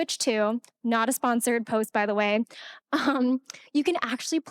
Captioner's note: laughing